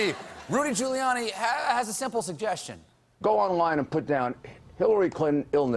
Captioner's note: laughter